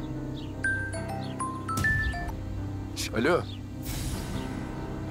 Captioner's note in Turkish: Telefon zil sesi